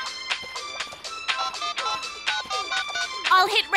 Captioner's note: dialling